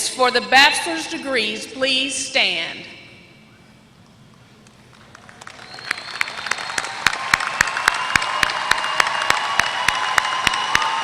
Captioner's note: applause